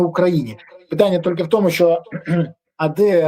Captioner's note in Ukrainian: прочищення горла